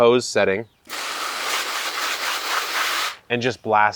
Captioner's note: hose sprays